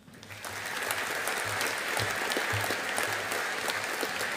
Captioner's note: audience applauding